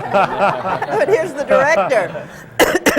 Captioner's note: laughter